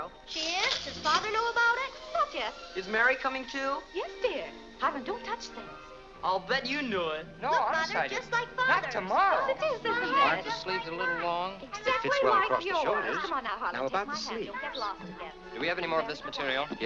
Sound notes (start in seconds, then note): 10.3 customer and tailor arguing